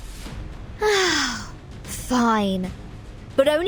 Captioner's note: sighs